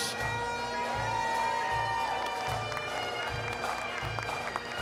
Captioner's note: applause, cheering; bagpipe music